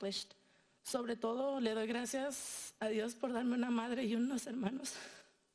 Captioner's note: speaking in foreign language